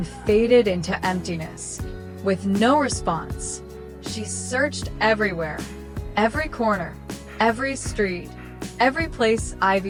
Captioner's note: snorts and music